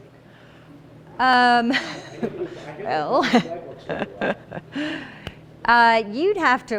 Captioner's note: laughing